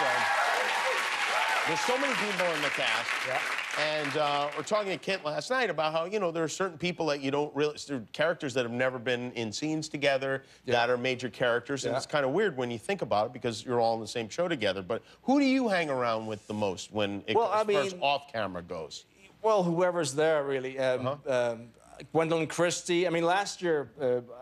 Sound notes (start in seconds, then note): 4.2 cheers and applause